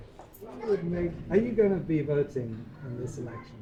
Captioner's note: voiceover